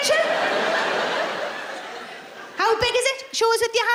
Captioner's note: laughing